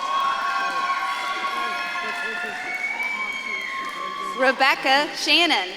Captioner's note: audience claps and cheers